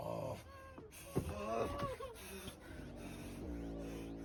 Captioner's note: nurse crying